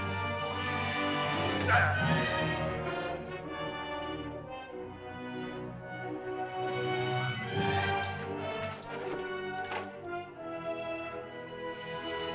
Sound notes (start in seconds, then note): 0.0 soft dramatic music; 1.5 Akhoba grunts; 1.6 suspenseful music